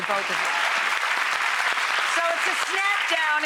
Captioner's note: clapping